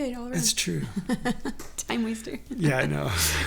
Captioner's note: laughs